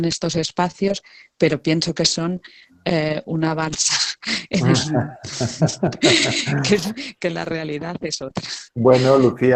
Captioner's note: risas